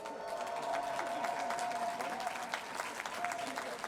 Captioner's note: cheering, applause